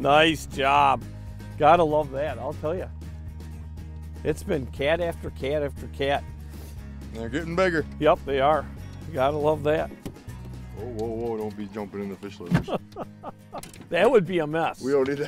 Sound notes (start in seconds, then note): 12.6 laughing